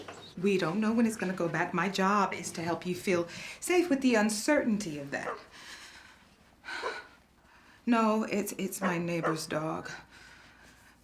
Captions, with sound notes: We don't know when it's gonna go back. My job is to help you feel safe with the uncertainty of that. -[faint barking outside] -[inhales shakily] No, it's-- it's my neighbor's dog.